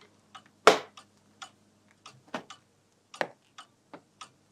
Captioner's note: tick-tock